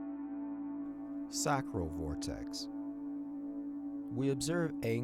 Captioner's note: tone reverberating